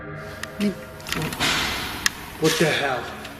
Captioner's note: banging